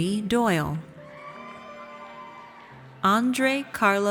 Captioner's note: audience cheers